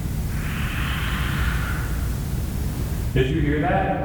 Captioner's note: screeching